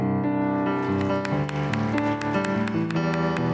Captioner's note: applause